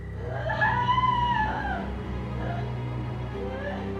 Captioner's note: Maggie screaming; dramatic music